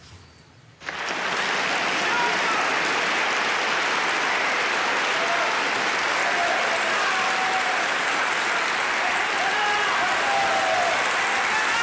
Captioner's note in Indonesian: tepuk tangan dan sorak sorai